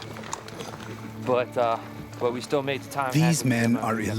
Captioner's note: voiceover